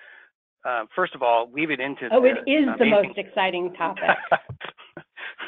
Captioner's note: laughter